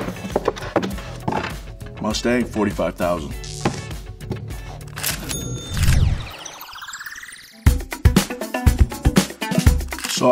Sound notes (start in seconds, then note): 5.1 ka-ching; 7.5 upbeat music